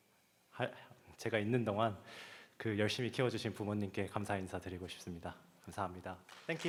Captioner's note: speaking Korean